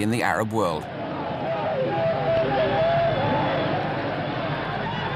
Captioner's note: Arabic spoken audio